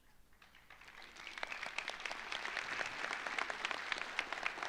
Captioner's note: audience applauds